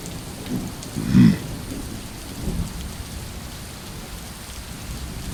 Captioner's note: rain continues pattering